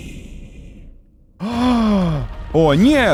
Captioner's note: dramatic inhale